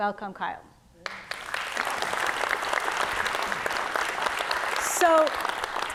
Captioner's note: audience clapping